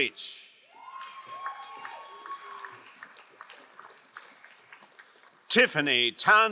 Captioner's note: crowd cheering and applauding